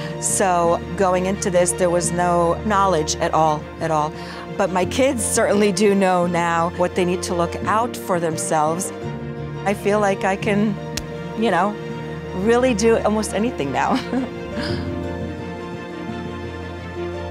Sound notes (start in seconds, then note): 13.9 chuckles; 14.4 bright music